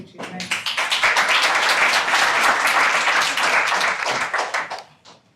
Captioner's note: audience applauding